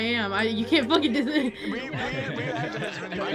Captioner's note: laughs